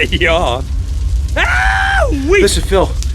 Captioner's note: screaming